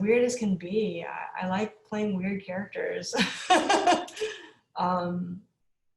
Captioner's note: laughs